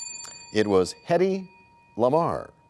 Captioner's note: bell rings, time expires